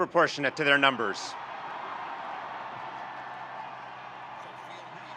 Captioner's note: audience cheering